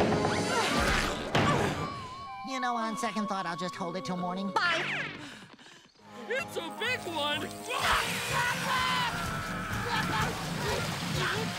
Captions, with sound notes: [panting] You know, on second thought, I'll just hold it till morning. Bye! It's a big one! - [shouts] - Patrick! [screaming] [grunting]